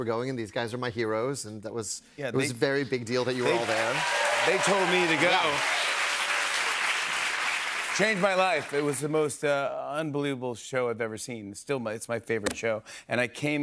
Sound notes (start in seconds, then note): 5.6 cheers and applause